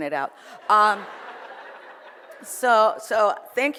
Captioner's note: audience laughs